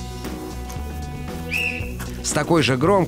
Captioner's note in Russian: свисток свистит